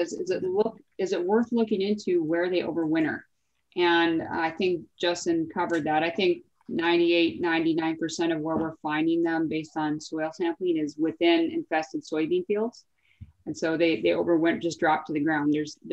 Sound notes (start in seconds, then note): none